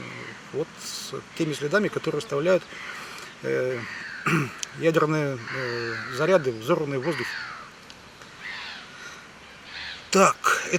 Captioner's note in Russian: откашливается